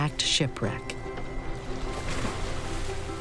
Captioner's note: splash